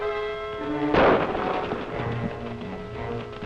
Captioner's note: gunshot